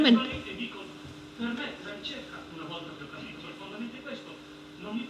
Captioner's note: in Italian